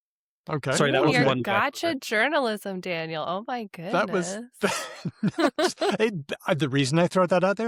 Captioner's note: laughs